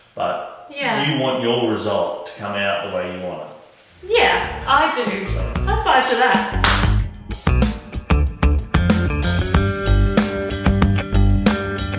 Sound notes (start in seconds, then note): 6.4 both clapping; 7.5 hip-hop music